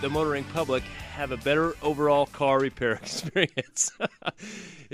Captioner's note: laughs